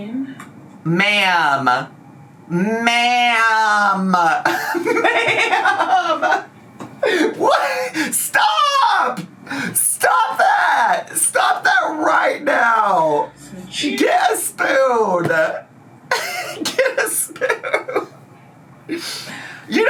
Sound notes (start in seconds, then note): 4.4 laughs; 16.1 laughs